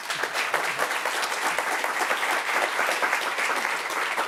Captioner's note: applause